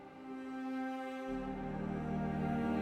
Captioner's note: none